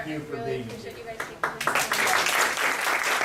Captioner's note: audience applause